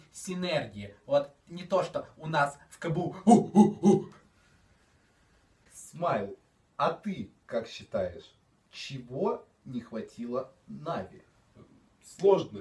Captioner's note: screaming strange shit